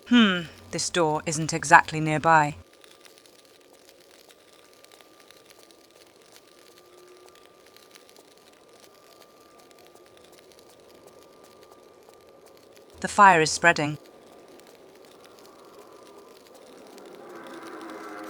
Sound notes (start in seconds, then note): 14.7 fire noises ♫